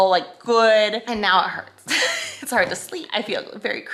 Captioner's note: laughs